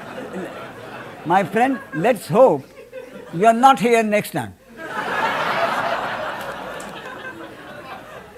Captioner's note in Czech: smích